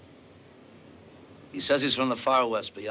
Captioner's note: SPEAKlNG FORElGN LANGUAGE